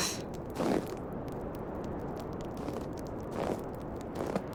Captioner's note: footsteps and crackling fire